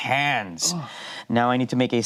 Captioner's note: grunts